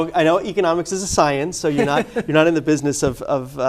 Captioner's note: laughter